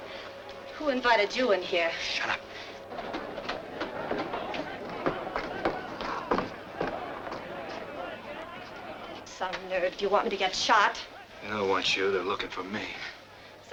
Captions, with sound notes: - Who invited you in here? - Shut up. (crowd clamoring) - Some nerve, do you want me to get shot? - They don't want you they're looking for me.